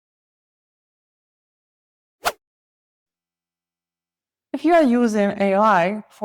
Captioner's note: silence